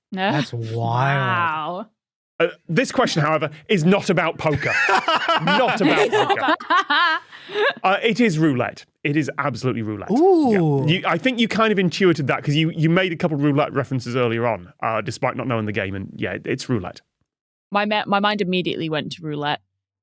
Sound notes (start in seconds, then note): 4.5 laughs heartily; 4.6 laughs uproariously